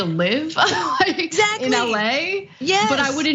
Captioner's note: laugh